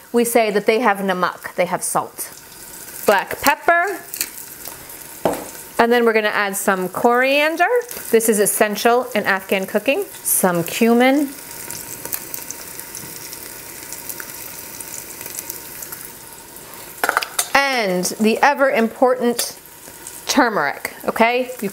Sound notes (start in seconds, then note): 11.4 oil bubbling